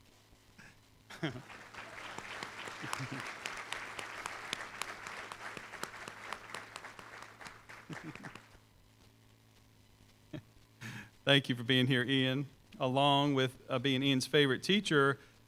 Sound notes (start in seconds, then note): 1.2 applause; 10.2 chuckles